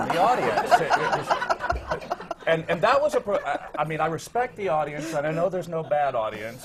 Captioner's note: laughter